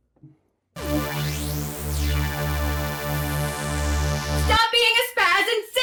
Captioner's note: eerie sci-fi whirring